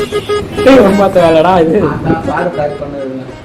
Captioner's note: laughing